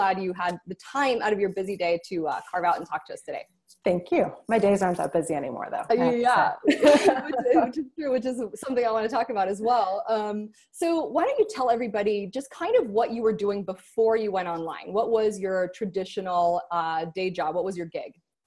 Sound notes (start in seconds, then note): 6.5 both laughing